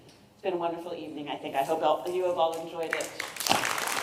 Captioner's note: applause